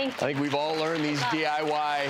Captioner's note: audience clapping